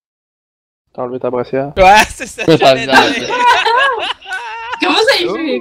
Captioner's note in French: Rires